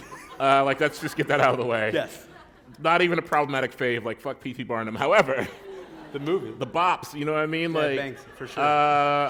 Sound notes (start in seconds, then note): 3.1 laughter